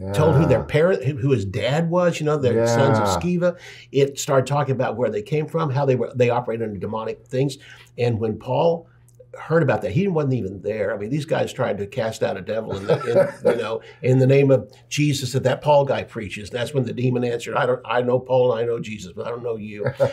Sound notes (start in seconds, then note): 12.7 laughs; 19.8 laughs